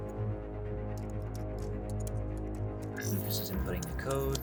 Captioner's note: clicking